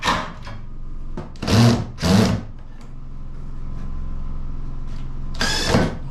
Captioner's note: drill whirring; drill whirring